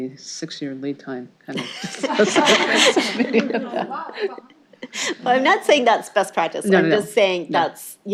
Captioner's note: laughter